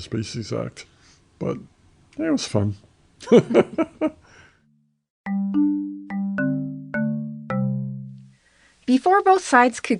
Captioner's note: both laugh